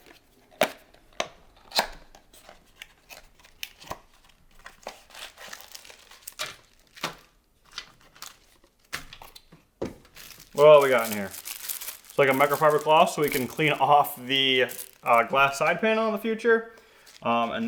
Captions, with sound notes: (packaging crinkling) What we got in here, looks like a microfiber cloth so we can clean off the glass side panel in the future